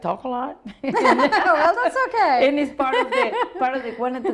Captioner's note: laughs